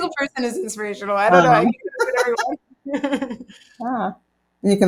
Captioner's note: both laugh